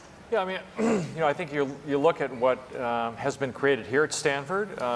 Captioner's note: cough